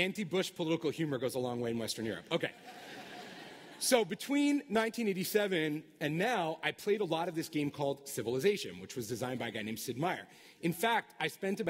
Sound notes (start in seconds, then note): 2.5 laughter